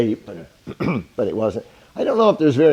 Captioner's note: clears throat